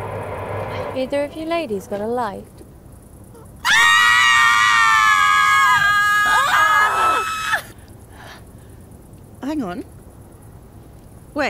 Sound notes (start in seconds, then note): 3.6 screaming